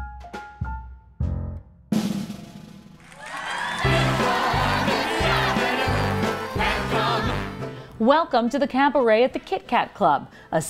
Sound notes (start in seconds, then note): 3.0 crowd cheering; 3.1 upbeat music